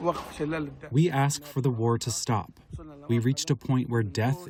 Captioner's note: through translator